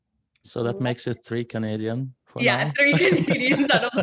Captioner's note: laughs